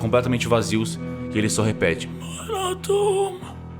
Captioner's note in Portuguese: gemidos